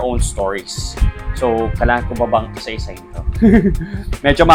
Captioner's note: laughs